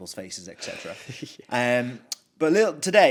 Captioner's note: chuckles